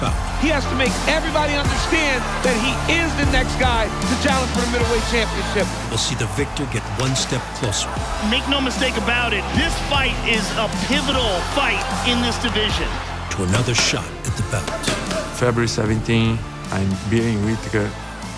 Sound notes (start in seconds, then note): 14.7 Costa grunting with strikes thwacking pads